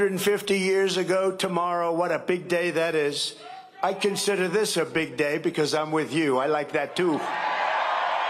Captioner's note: cheering and applause